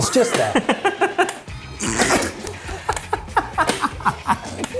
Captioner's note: laughing